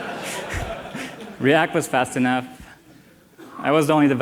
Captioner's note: laughter